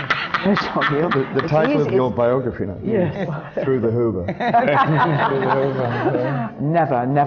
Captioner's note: laughs; laughter